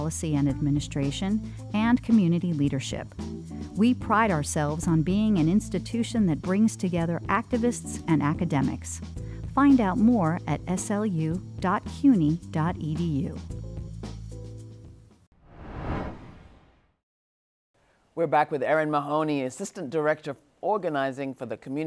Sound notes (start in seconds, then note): 15.4 title whooshing